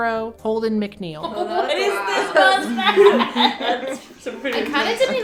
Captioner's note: collective laughter